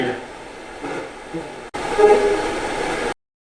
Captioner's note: static sound